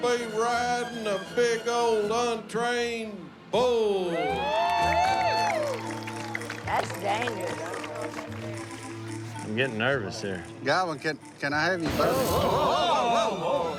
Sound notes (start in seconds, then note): 4.0 cheers, applause